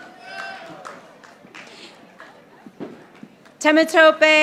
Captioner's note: audience applauding